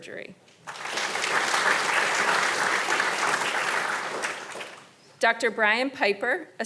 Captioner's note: audience applauding